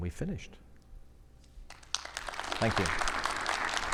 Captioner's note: audience applauding